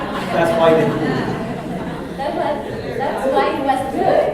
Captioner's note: laughter